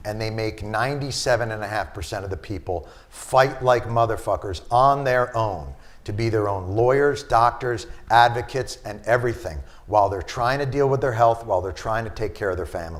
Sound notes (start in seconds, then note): none